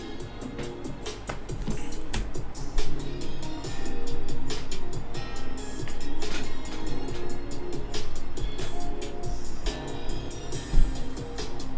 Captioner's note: upbeat music playing; keyboard clicking